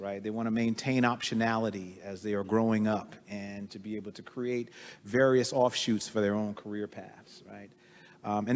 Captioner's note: none